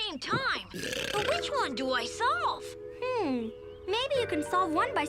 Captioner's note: Otto burps